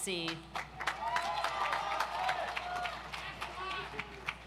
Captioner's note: audience applauds